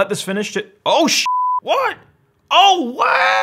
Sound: beep

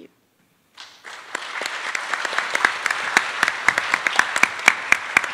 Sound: attendees applauding

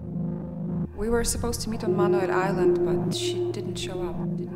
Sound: echo

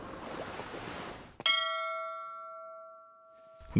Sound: temple bell rings

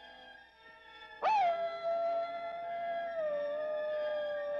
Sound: coyote howling

